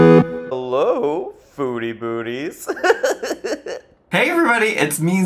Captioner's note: bright music; laughs